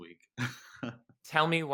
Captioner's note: laughs